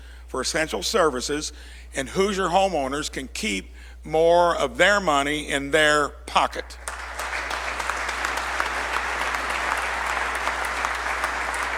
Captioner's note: applause